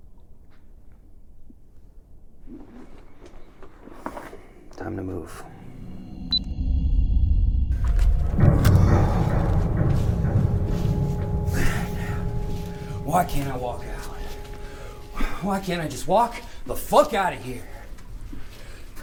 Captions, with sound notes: Time to move. (camera beeps) (intense dark whooshing) (intense music) Man, why can't I walk out? Why can't I just walk the fuck out of here?